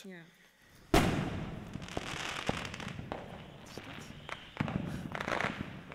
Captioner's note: loud firework noises